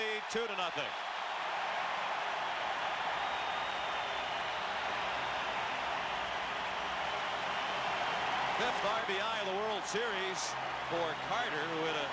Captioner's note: applause; cheering and Applause